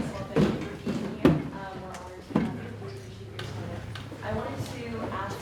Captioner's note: banging drowns out speaker